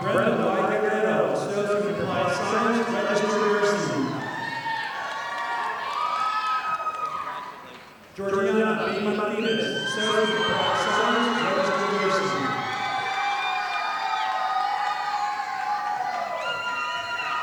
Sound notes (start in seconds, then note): 4.6 audience applauding; 14.0 audience applauding